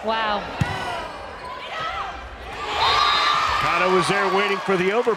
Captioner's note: crowd and players cheering; players yelling